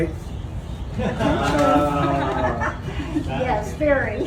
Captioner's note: onlookers laugh